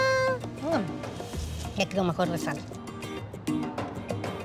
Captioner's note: laughs; speaking Spanish